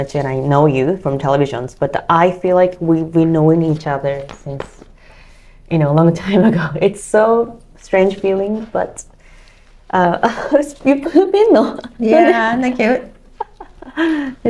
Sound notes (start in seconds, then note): 11.8 laugh